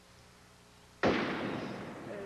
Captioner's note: gunshot